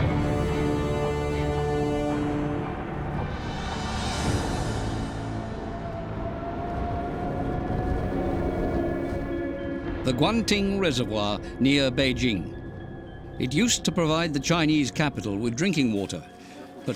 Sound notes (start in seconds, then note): 0.2 ominous music; 8.2 heavy winds